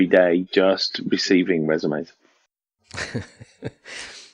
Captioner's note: laughs